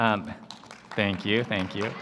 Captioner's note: applause